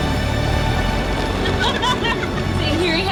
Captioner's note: laughs